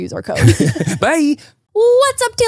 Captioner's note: laugh